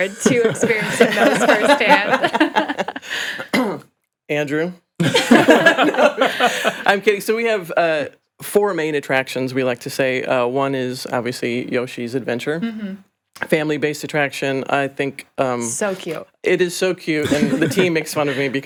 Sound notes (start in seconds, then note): 2.1 all laughing